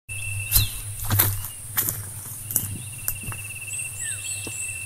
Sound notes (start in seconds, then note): 0.2 footsteps